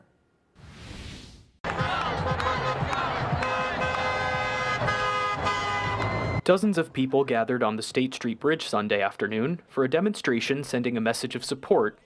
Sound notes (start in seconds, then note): 1.6 nat - crowd cheerin